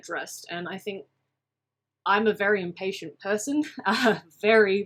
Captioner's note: giggles